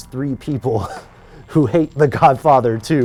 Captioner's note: laughs